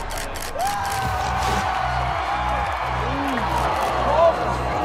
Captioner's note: crowd cheers